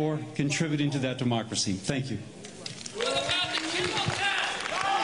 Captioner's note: applause